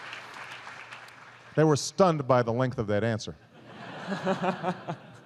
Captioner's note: laughter